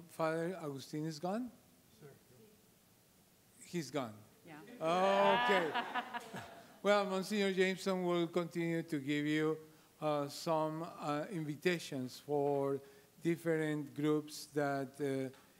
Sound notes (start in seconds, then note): 4.8 laughing